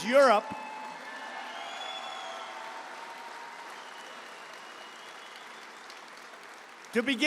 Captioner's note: applause